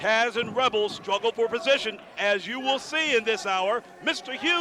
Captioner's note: crowd cheering